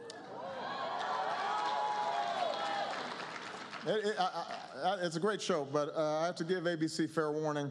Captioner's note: applause